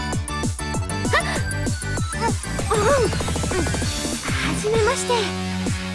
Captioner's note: cough